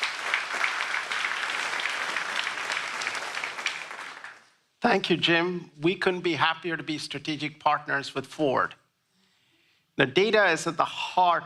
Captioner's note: applause